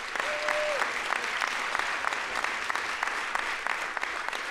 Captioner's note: audience applauds